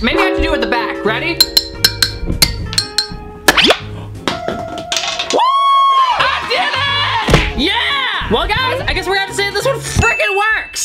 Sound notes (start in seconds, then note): 0.6 glass clings; 3.9 glass pops; 5.6 celebrates loudly